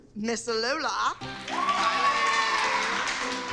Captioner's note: cheering and applause